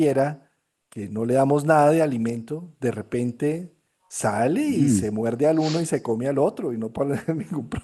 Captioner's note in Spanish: resoplido